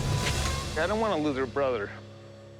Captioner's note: glass shattering